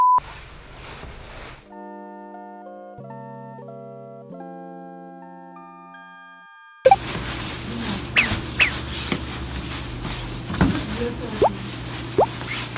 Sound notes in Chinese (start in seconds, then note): 7.8 嚓嚓 嚓嚓